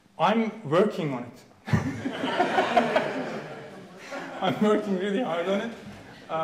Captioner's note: audience laughing